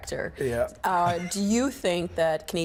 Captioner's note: everyone laughing